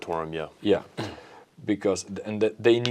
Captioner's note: clears throat